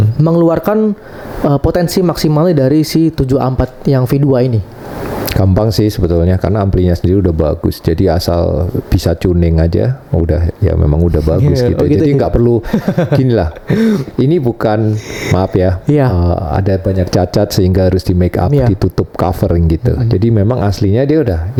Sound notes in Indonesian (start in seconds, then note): 12.6 tertawa